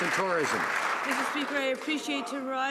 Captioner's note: some Applause